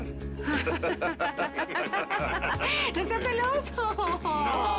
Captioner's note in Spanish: Risas